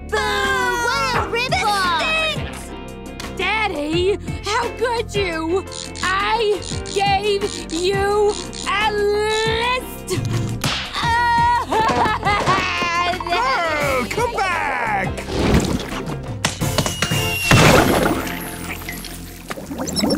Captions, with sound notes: - Boo! - Boo! This stinks! Daddy, how could you? I... gave... you... a... list! [sobbing] Pearl, come back! [splattering]